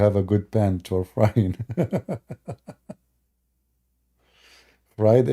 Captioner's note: Ketawa